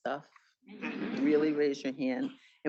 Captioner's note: students laughing